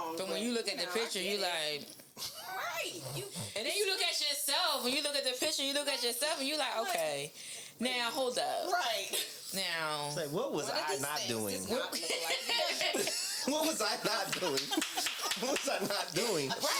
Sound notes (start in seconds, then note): 12.0 laughing